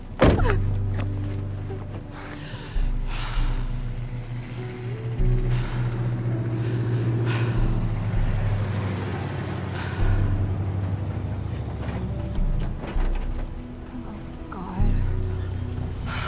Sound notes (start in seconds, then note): 0.1 sobs; 2.1 breathing heavily; 6.1 engine rumbles; 15.2 brakes squeal